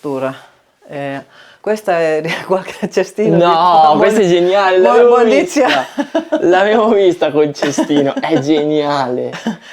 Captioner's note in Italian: risate